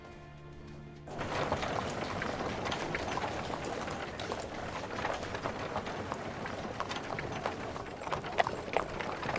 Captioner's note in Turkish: At arabası sesi